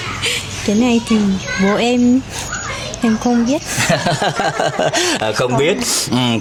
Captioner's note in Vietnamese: tiếng cười